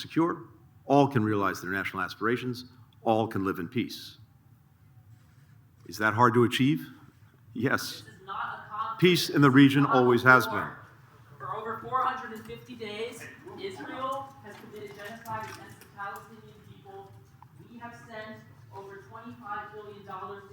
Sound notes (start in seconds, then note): 11.4 protest utterances